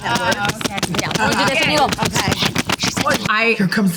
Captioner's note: Kyle thumping mic